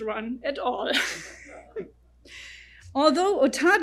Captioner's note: audience laughs